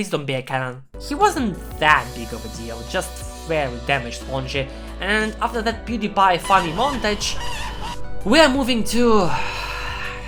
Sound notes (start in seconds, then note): 9.2 sigh